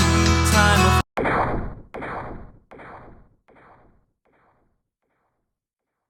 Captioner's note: cracking sound, song ends; silence